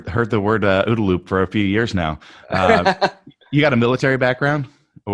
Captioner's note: laughs